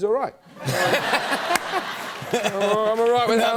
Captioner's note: laughter